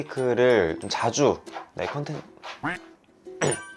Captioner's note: scratch scratch scratch